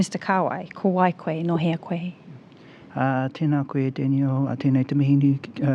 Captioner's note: both speaking in foreign language